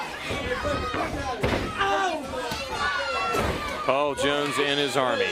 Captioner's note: crowd chatter